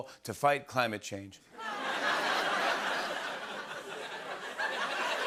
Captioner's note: laughter